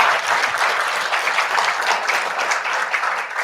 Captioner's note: applause